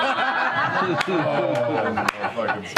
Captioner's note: laughter